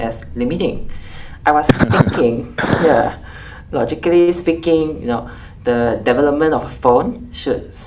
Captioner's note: laughs